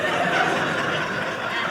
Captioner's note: audience laughing